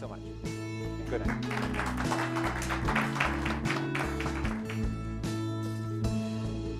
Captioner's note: audience appluses